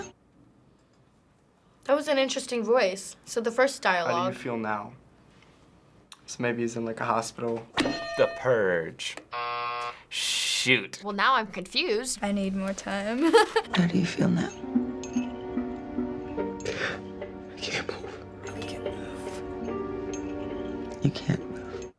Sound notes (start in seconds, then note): 9.3 buzzer